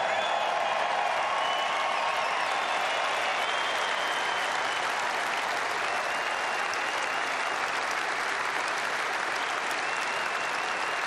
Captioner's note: applause